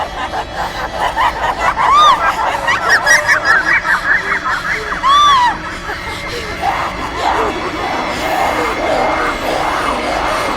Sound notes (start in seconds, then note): 0.2 evil laughter; 5.2 screaming